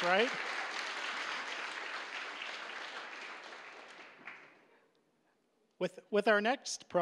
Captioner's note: applause